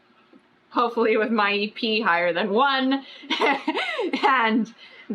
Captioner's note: laughs